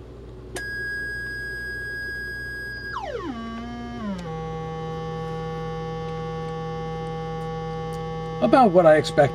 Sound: droning noise

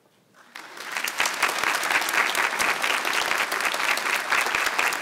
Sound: audience applauds

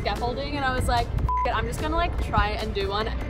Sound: beep

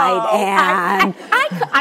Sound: audience laughs

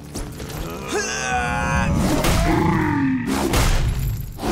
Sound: grunting

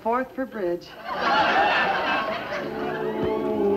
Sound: audience laughs hysterically

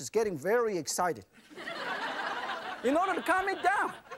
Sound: laughing

